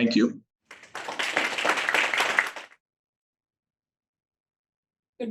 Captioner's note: attendees applauding